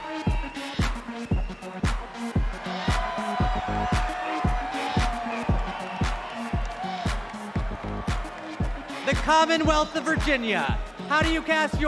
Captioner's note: cheers and applause